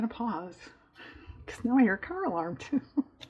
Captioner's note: laughs